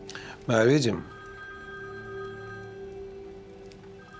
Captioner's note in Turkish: Telefon çalıyor